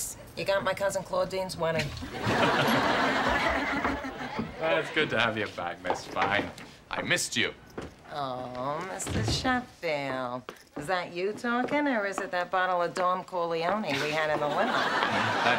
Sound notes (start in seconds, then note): 2.0 chuckles; 2.1 laughs